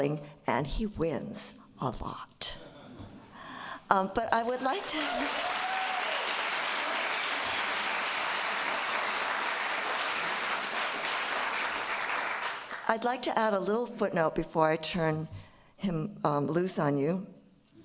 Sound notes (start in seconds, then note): 4.5 applause